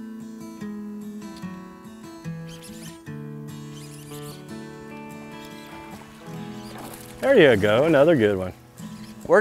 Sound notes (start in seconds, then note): 3.6 reeling sounds